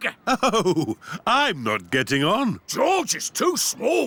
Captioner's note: chuckling